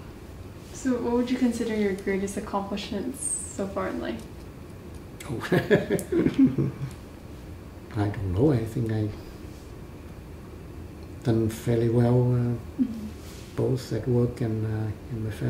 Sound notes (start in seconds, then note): 5.4 laughs